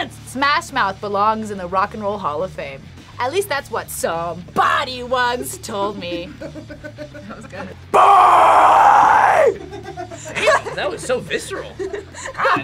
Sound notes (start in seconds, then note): 5.6 React laughs; 8.2 growling; 8.8 React laughs; 11.6 laughs